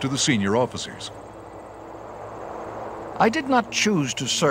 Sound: American accent

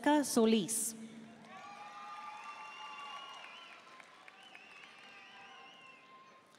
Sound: audience cheering and applauding

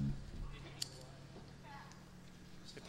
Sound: lighter flicking

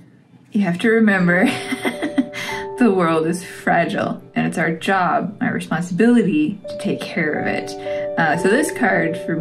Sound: laugh

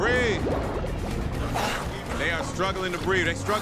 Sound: gasps

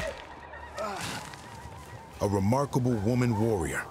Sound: grunt

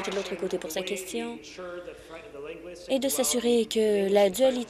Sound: applause

